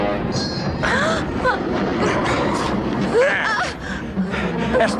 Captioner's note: gasp